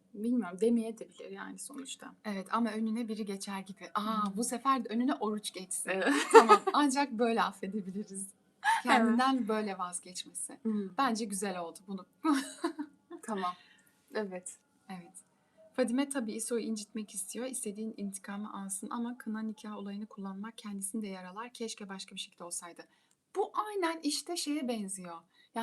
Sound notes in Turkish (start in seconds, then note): 6.1 kahkaha; 12.2 kahkaha